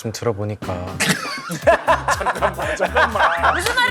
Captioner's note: hahaha